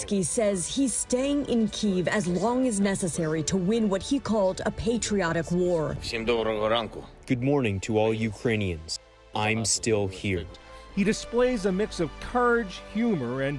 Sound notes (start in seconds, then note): 6.6 Volodymyr speaks in foreign language